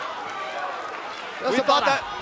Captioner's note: cheers & applause